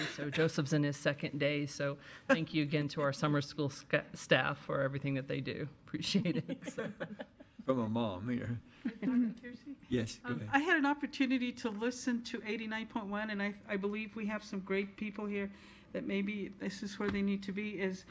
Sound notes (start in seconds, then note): 6.5 audience laughs